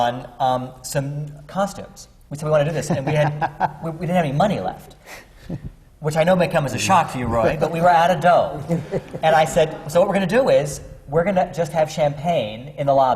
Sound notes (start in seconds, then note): 2.7 laughs; 8.6 laughter